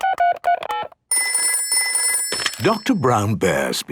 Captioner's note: dial tones beeping; ringing